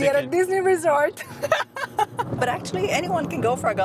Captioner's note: laughs